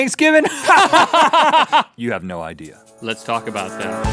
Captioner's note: both laugh